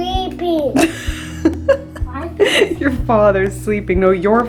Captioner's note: laughing